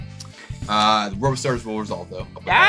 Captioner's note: deep inhale and exhale